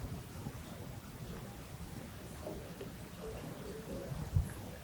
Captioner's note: audience chatter